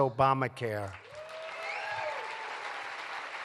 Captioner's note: applause